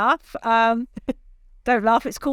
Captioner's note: laughs